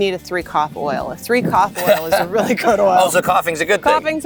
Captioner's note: chuckles